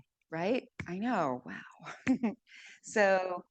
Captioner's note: chuckles